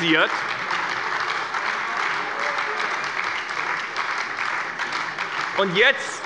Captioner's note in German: Beifall bei der SPD